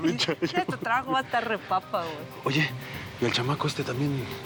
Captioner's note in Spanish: risas